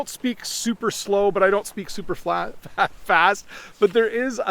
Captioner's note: laughs